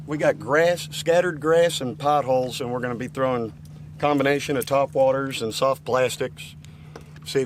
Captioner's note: none